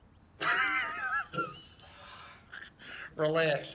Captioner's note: laughing